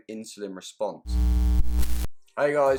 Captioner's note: buzzing